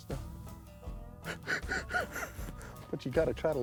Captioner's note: laughs